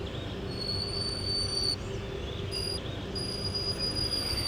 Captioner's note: high pitched squeaking